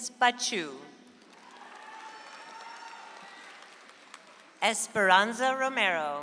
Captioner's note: audience applauds